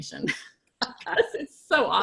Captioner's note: laughing